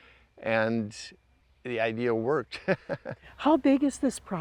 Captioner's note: laughs